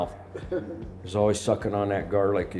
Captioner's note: group laughs